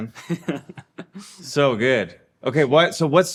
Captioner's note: chuckling